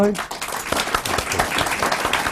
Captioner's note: applause